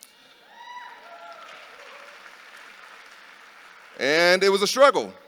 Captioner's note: audience cheering